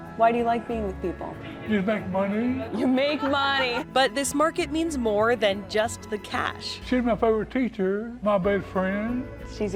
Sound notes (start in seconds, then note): 2.7 laughing